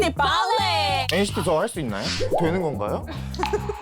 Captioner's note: sound effect asking again